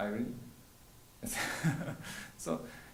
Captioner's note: chuckles